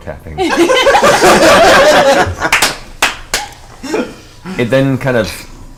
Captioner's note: all laugh